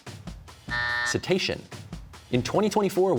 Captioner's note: buzzer sounds